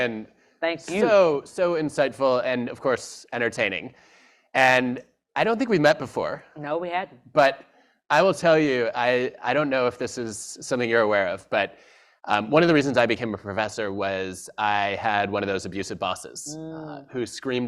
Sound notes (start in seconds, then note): none